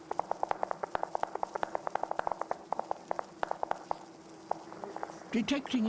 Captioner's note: rapid tapping